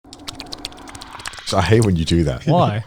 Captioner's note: lips smacking